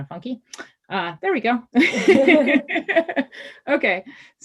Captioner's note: laughs